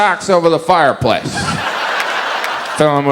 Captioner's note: audience laughs